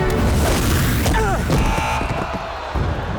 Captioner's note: fighting, buzzer sounding